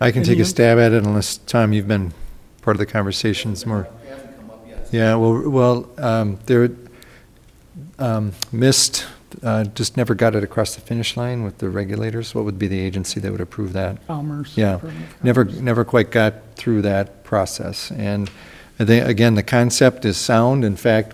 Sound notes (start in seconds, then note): 4.3 speaking softly; 14.2 speaking softly